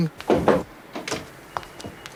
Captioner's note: Knock on door